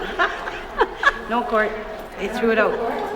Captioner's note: laughs